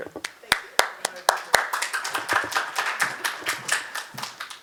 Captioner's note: audience applauds